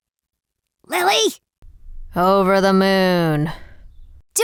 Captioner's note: whispers